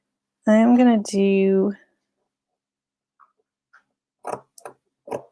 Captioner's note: scissors snipping